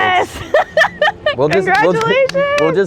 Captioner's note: laughing